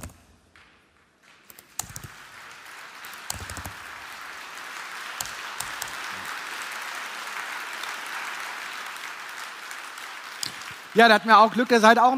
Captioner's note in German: Applaus